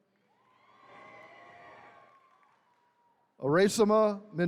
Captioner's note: attendees cheering